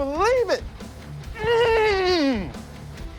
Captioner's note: grunts gleefully